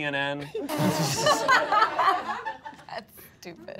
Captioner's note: all laughing